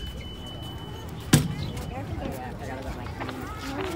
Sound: chatter

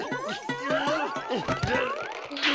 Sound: thud

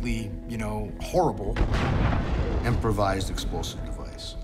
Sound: explosion

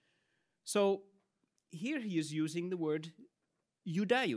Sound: speaks in Latin

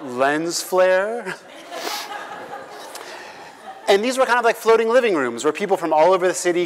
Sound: laugh

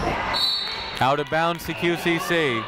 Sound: whistle tweeting

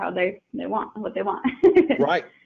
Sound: chuckling

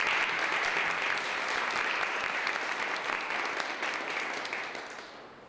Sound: applause

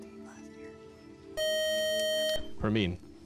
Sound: time-out buzzer

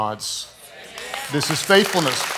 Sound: audience clapping

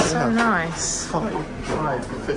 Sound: people chattering

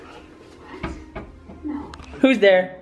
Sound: knocking

